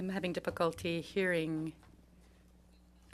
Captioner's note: speaking in French